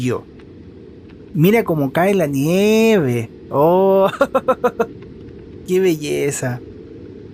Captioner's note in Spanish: risas